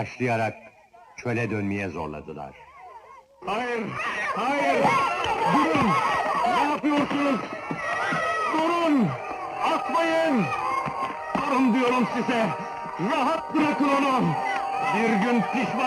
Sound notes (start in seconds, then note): 4.7 children shouting; 11.2 dramatic music